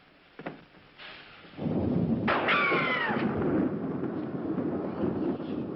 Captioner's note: thunder